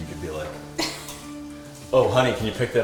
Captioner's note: laughter